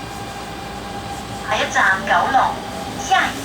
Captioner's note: Cantonese